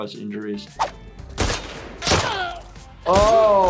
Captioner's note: gun shooting; man yells